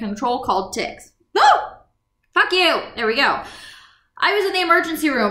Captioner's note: whoo!